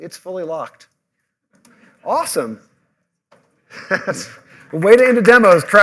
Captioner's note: laughter